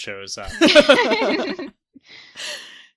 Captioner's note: laugh